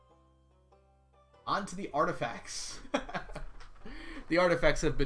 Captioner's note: laughs